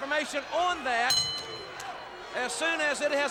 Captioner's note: bell rings